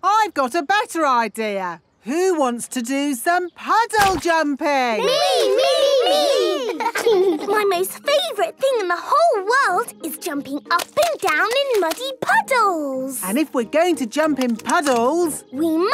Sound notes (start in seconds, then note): 5.2 laughing